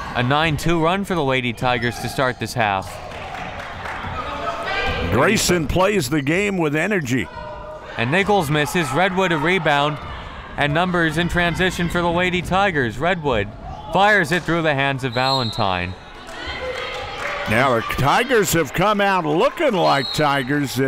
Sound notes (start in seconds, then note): 4.1 players yelling